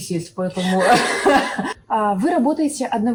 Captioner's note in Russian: Смех с грустной иронией